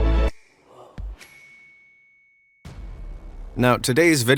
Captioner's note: light suspenseful music; bell dings